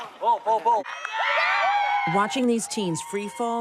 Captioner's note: campers cheering